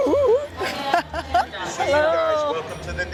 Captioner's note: laughs